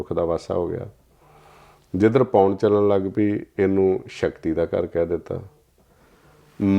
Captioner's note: breath